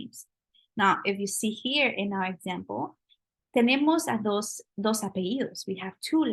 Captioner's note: spanish